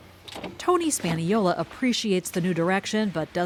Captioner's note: voice-over